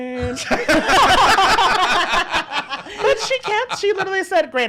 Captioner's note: laughs